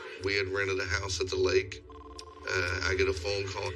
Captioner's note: phone rings